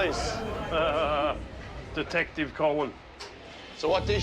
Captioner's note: laughs